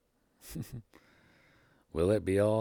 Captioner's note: chuckles